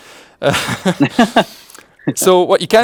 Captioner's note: laughs